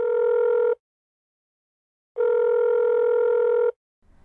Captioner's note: phone ringing